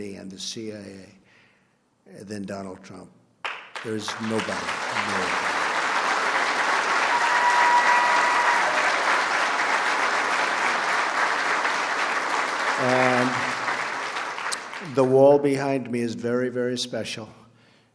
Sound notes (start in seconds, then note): 5.0 applause